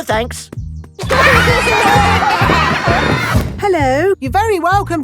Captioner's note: laughter